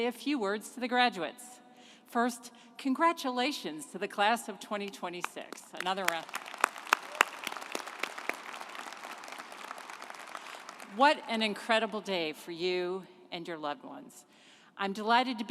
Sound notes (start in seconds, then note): 5.7 group applauding